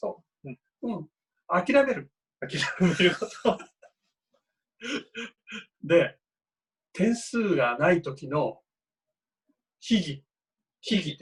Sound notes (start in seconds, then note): 2.5 laughs